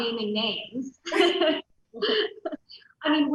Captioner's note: loud laughs